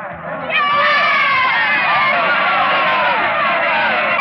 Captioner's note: cheering